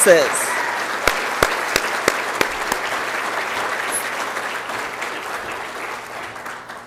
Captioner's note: applause and Cheering